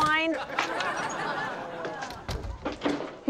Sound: door opens

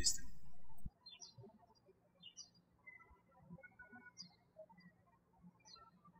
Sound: birds chirping

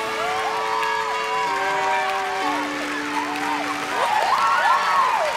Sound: audience clapping

